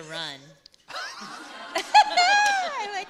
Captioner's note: laughter